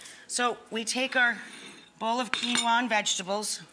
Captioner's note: none